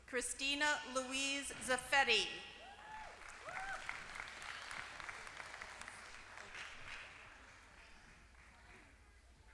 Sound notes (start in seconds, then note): 2.9 applause